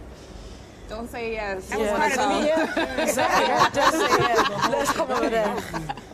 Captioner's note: laughter